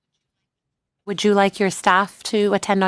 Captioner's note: speaking French